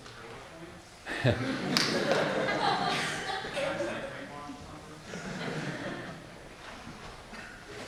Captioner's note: laughing